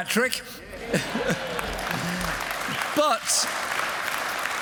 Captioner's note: cheers